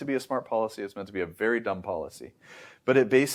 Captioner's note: inhales